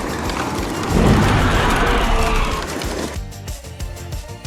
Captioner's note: roars; upbeat pop music